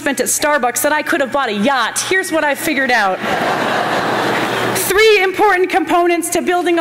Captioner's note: laughter